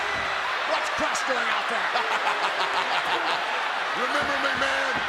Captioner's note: laughs